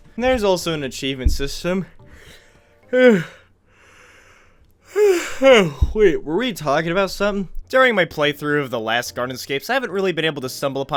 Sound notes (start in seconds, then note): 2.9 yawning